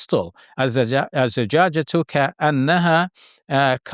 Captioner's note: speaks in Arabic